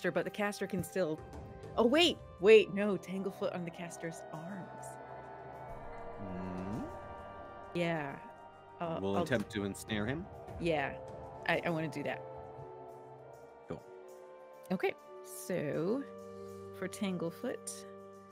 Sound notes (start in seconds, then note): none